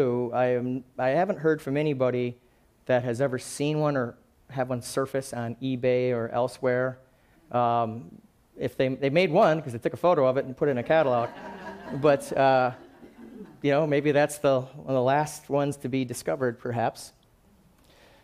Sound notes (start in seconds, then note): 11.1 laughing